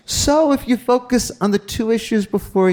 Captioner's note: none